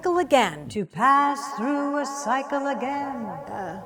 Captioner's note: echo: “To pass through a cycle again”